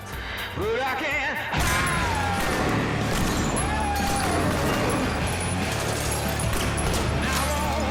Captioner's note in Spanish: Disparos